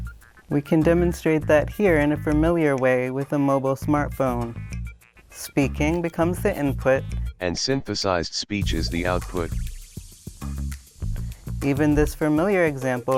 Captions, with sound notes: We can demonstrate that here in a familiar way with a mobile smartphone. Speaking becomes the input, [synthesized speech] and synthesized speech is the output. Even this familiar example